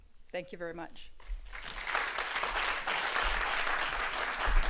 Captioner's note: applause